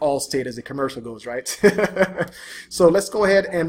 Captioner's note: laughs